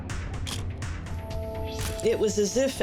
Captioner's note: camera shutter click